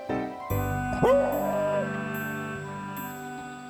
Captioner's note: lively music; Hank howls